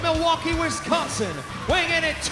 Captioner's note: crowd cheering